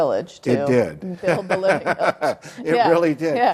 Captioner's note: laughs